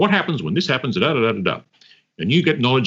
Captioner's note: speaker makes gibberish sounds